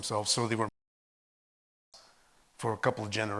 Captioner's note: audio cuts out